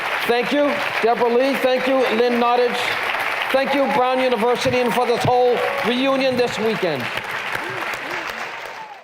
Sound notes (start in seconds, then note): 0.0 applause; 6.9 cheers and applause